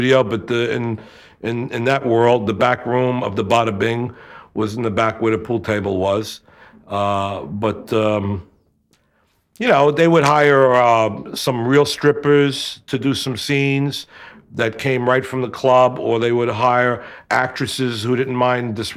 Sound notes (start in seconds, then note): none